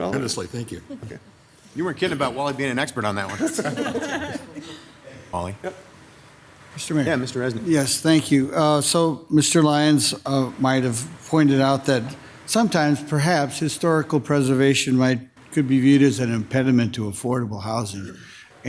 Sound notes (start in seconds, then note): 3.2 crowd laughing